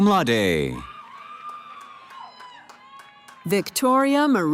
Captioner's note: cheering